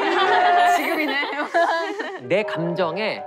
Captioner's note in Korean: 헤헤